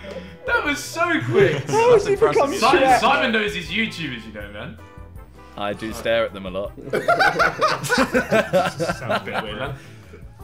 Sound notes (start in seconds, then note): 6.8 laughing